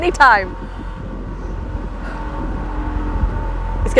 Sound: loud, Groaning, Metal Scraping Noise

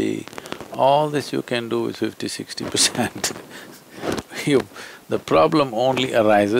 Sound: laughs

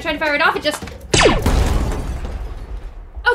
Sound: laser firing into wall

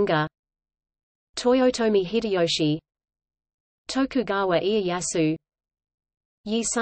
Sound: Korean

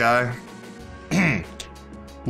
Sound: clears throat

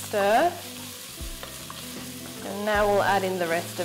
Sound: food sizzles

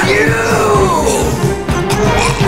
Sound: choking, dying

